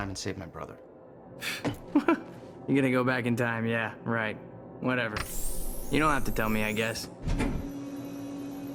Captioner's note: laughs